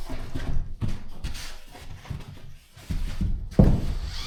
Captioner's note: footsteps; drill whirring